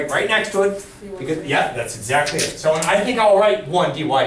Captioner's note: voiceover